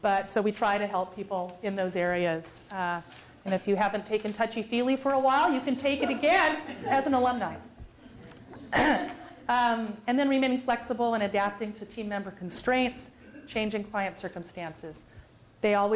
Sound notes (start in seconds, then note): 5.7 laugh; 8.5 cough